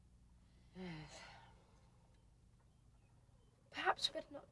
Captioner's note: sighs